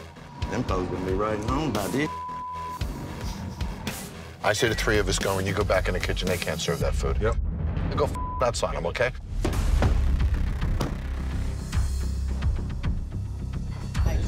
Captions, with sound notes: Them folk are going to be right at home by this (beep). - I say the three of us go in, you go back in the kitchen, they can't serve that food. - Yep. - You go (beep) that side, okay? (tense music)